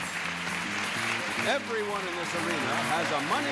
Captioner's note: audience applauding